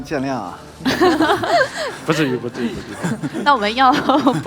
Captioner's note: laughs